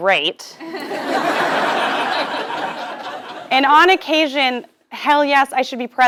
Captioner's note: laugh